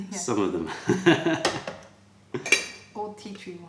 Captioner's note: laughter